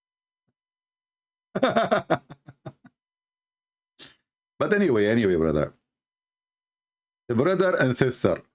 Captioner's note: Ketawa